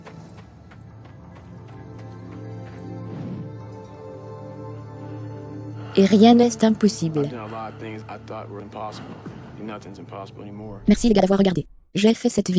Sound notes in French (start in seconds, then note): 7.2 respire fortement